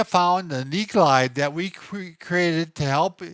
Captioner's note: none